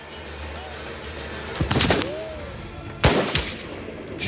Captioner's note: gunshot